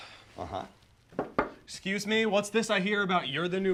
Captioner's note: knocking on door